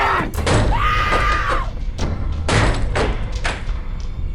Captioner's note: screaming